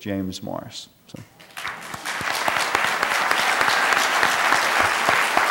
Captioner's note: applause